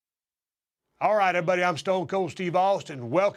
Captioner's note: none